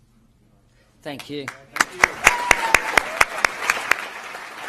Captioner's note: applause